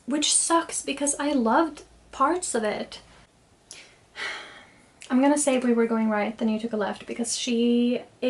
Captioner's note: sighs